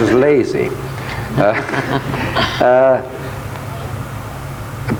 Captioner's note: both chuckle